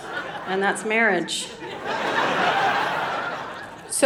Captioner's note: audience laughing